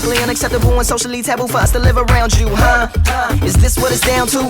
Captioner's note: ha! Uh!